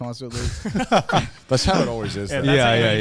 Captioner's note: men chuckle